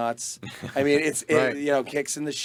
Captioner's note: group laughing